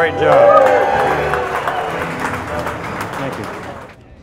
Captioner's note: crowd cheering and clapping